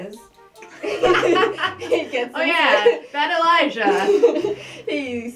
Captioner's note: laughing